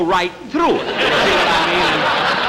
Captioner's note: audience Laughing